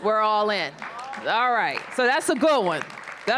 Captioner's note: applause